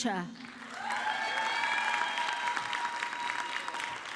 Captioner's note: audience clapping